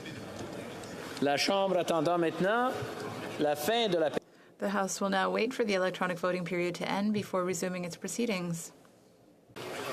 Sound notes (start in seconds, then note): 6.8 speaking French